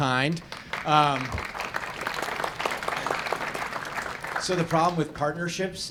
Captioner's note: audience clapping